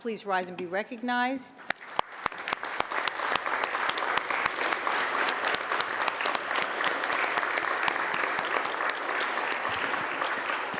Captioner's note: applause